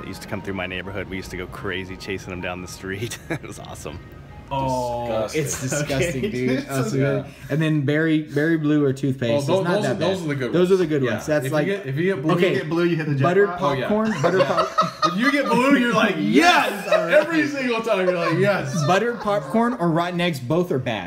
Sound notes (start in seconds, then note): 14.0 laughing